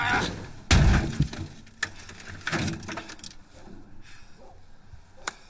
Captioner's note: washing machine thuds